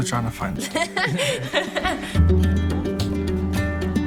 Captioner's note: both laugh